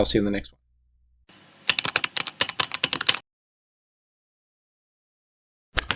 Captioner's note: typing